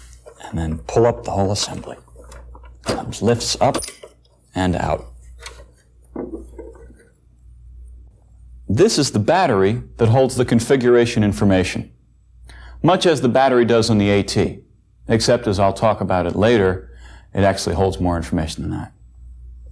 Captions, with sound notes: and then pull up the whole assembly. (scrape) Just lifts up and out. This is the battery that holds the configuration information, much as the battery does in the AT, except, as I'll talk about it later, it actually holds more information than that.